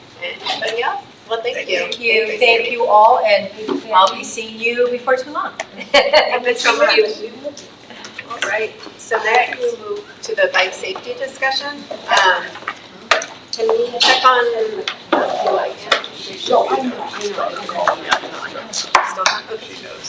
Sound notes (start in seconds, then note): 5.7 laughs; 14.4 faintly speaking